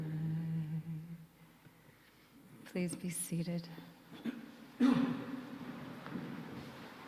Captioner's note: clears throat